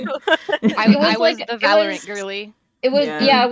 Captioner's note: laughter